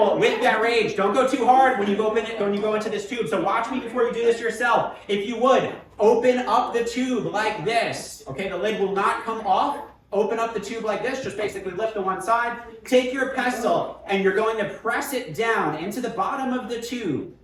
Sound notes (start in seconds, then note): none